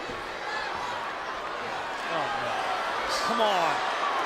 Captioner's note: applause